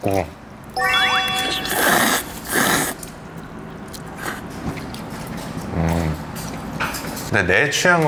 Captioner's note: slurping by a naengmyeon snob